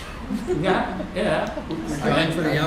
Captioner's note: laughter